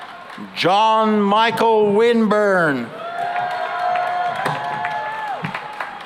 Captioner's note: cheering and applause